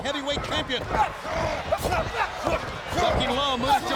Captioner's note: fighters grunting